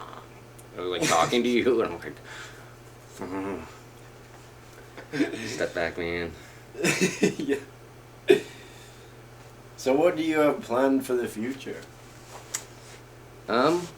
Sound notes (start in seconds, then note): 1.0 laughing